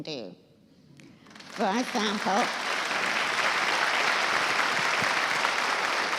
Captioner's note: applause